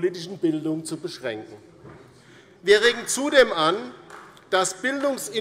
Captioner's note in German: Beifall bei der LINKEN